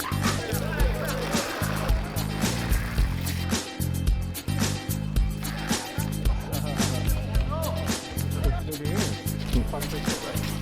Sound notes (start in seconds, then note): 1.1 upbeat music; 5.5 boys yell